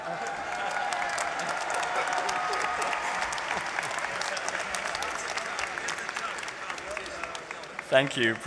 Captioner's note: applause